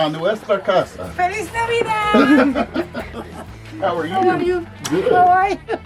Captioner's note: speaks spanish